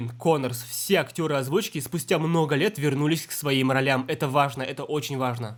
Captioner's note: Russian